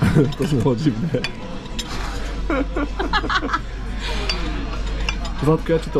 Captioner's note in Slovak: smiech